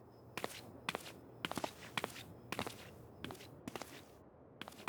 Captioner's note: footsteps